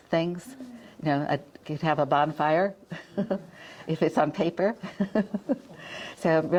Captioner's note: chuckles